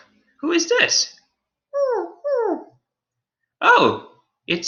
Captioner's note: Alien Space Doggy whimpers